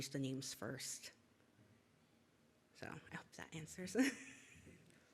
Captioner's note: laughs